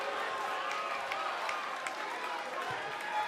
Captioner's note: cheers and boos